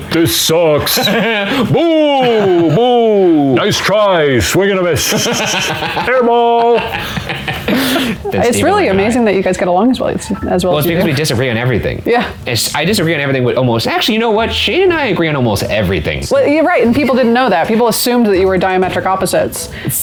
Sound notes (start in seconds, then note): 4.9 laughing